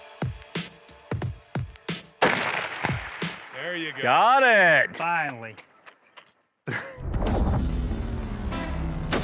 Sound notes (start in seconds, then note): 2.2 rifle firing